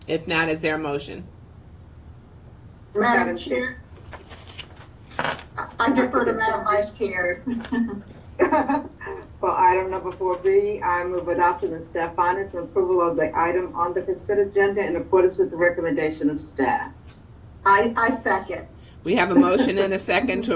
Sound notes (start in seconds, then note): 8.3 laughs